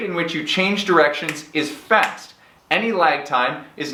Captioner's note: fingers snapping